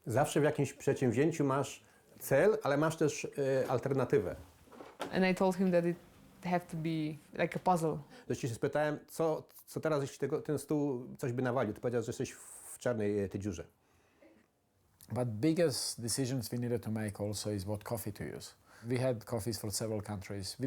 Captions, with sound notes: (speaking in foreign language) - And they told him that it have to be like a puzzle. (speaks in foreign language) - But biggest decisions we needed to make also is what coffee to use. We had coffees from several countries